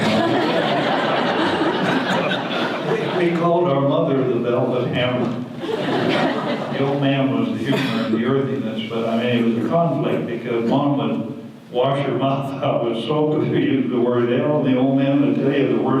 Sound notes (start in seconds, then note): 0.0 audience laughter; 5.6 audience laughter